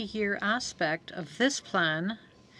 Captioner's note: speaking French